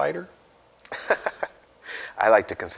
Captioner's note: laughs